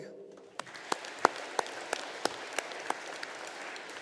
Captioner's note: audience applauding